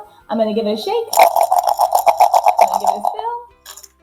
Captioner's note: counters rattling